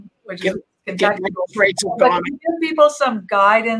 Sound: audio distorting

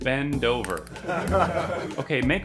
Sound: laughter

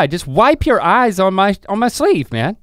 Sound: none

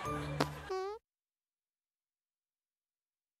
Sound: fart noise

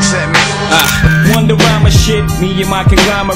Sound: camera click

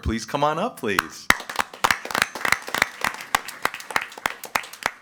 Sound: everyone applauding

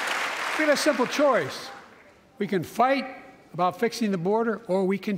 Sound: applause

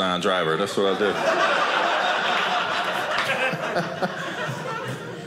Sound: audience laughing

